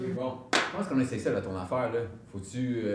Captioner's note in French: clap de main